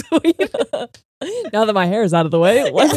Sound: laughing

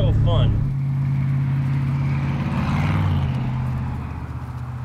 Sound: engine humming

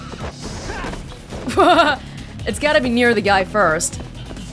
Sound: chuckles

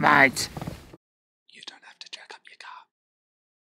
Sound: whisper

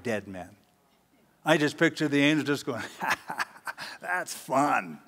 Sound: cocky laugh

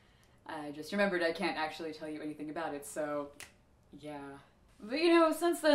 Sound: snaps

